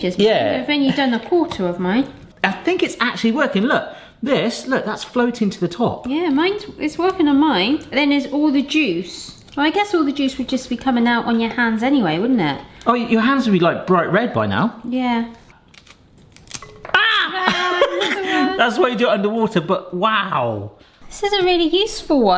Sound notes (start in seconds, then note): 17.0 laughing